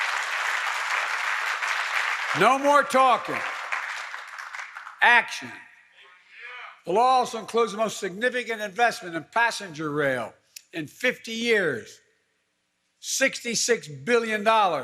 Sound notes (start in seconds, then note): 3.7 applause